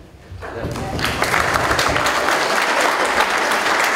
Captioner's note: applause